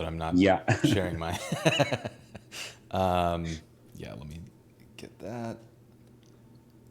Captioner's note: both laughing